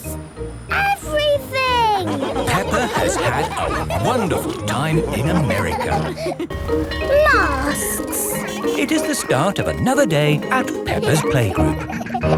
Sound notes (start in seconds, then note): 1.3 laughing; 6.5 bell ringing